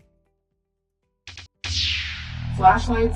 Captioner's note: light saber sound